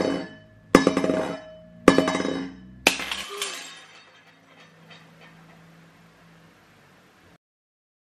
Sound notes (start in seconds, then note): 2.8 shattering